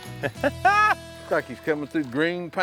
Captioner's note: laughter